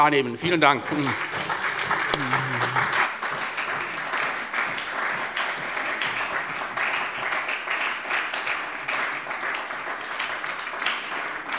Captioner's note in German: Anhaltender Beifall bei der SPD - Beifall bei der FDP